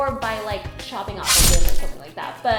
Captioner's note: knife slices